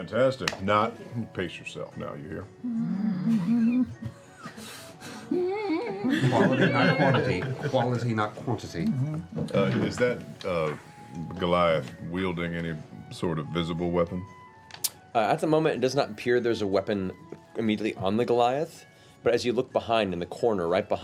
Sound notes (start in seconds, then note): 2.7 growling; 5.3 nervous humming